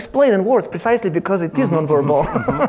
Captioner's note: chuckles